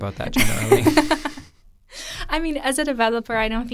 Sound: both laughing

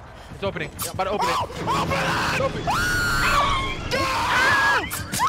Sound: shrieks; screaming

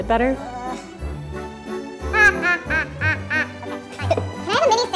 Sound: laughter

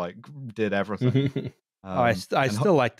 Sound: chuckles briefly

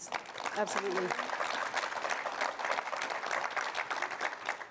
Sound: audience applause

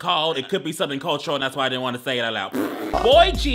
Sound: laughing

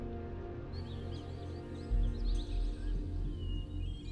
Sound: birds chirping

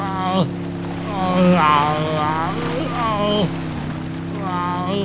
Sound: splashing water

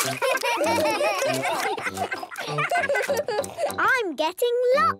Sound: giggling, chewing

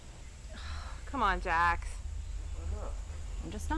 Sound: sigh

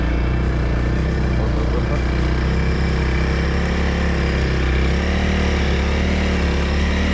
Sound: engine revving

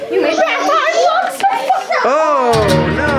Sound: excited chatter

